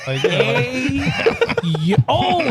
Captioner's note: laughing